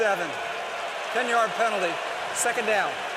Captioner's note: cheering